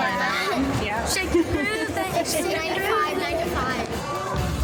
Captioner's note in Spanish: maestro riendo